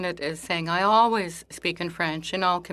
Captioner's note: speaking in French